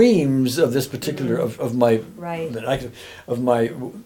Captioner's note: humming